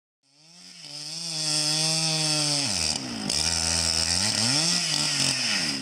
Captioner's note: chainsaw rattling sound